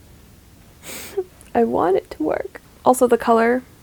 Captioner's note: sniffs dramatically